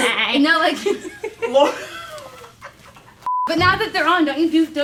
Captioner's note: all laughing